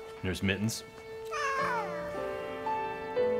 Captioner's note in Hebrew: יללה